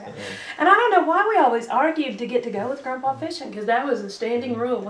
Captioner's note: laughter